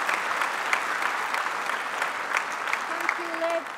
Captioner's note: applause